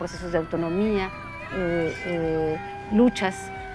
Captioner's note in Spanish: sirenas